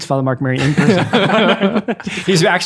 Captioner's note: all laughing